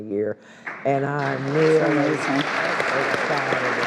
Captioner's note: all applaud